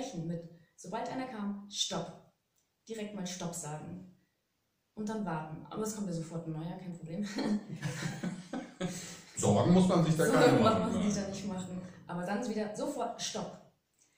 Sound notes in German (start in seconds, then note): 7.3 lachen